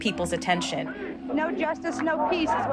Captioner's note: soundbite of montage; chanting